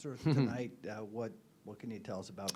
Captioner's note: chuckles